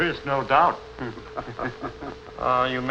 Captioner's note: laughter